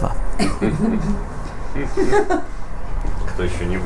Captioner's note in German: Lachen